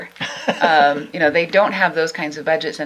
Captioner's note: laughs